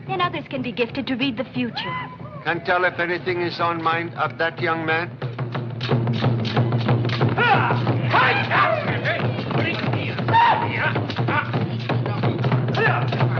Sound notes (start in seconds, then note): 7.0 grunting